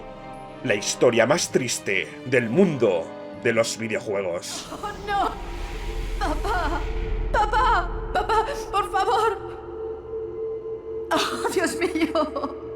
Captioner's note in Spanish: solloza